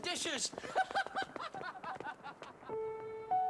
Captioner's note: servants laugh; piano playing